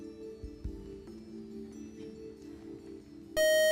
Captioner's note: time-out buzzer